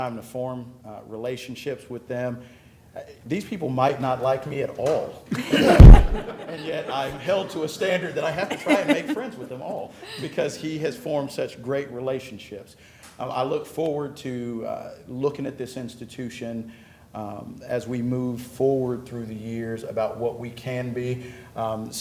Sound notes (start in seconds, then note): 5.3 laughter